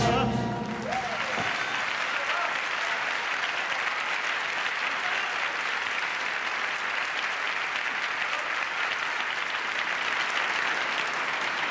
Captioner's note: applause